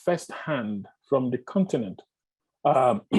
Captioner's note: clear throat